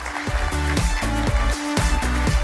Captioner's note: applause